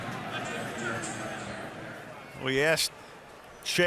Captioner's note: stadium announcements